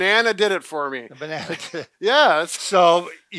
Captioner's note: chuckling